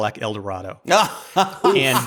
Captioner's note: laughs